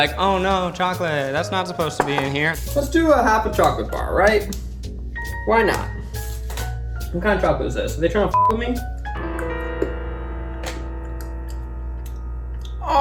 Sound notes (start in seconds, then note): 8.5 dramatic music; 9.3 beep